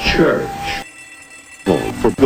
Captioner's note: fire alarm going off